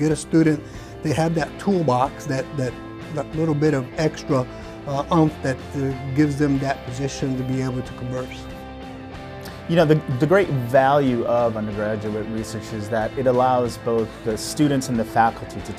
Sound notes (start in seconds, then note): 9.7 voiceover